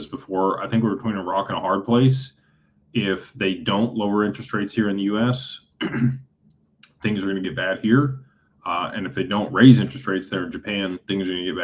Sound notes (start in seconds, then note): 5.8 clears throat